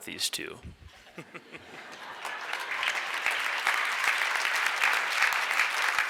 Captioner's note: laughs; audience applauds